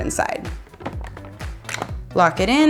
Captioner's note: plastic rattles and clinks